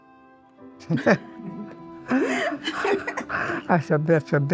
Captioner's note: both laughing